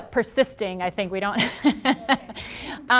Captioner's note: laughing